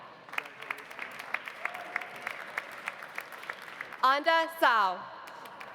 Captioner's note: audience applauding